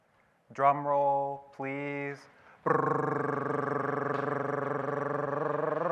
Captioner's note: voicing drum rolling